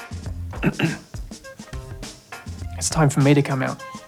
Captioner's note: clears throat